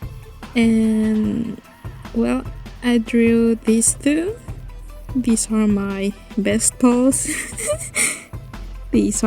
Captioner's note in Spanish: risas